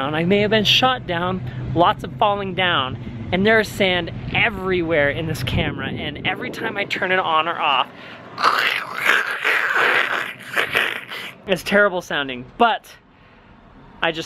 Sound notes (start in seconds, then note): 8.3 making grinding noise